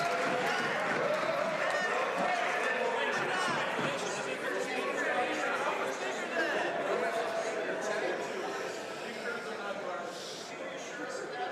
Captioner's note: some Applause